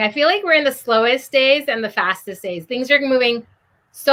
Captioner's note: none